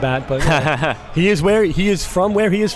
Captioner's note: laughs